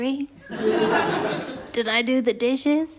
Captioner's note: laughter